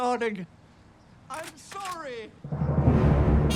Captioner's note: gun cocking; dramatic music plays